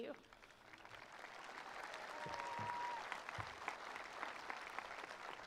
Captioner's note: attendees applauding